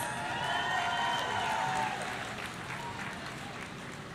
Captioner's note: audience cheering